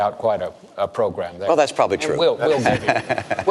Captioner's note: chuckles